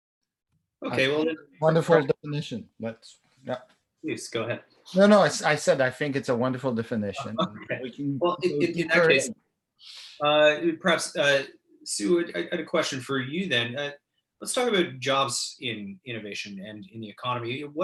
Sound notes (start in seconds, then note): 7.2 laughs